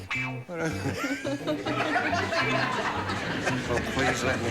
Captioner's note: laughter